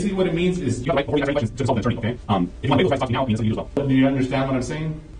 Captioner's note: talking sped up